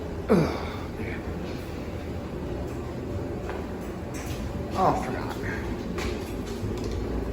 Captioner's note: dryer continues running